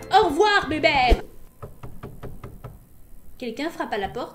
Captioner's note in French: petit toc toc